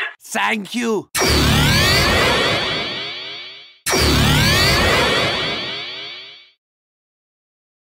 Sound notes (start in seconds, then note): 1.1 miscelaneous sound effects